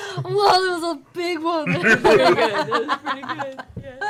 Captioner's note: laughter